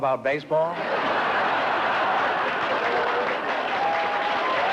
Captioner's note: laughter